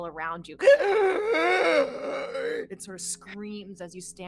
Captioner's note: groans